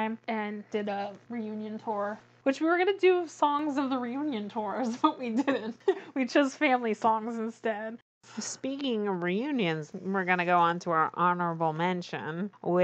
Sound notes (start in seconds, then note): 5.3 laughs